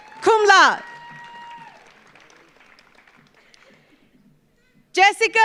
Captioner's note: audience cheers; audience applauds